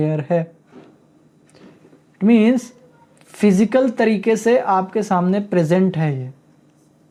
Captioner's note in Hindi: नाक से की जाने वाली आवाज़